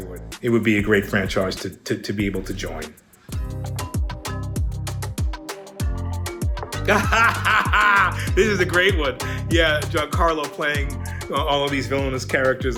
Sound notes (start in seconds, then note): 3.5 upbeat music; 6.8 Giancarlo laughs